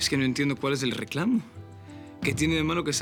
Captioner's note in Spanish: none